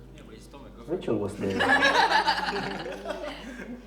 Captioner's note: everyone laughs